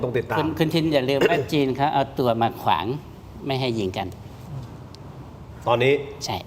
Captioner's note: clears throat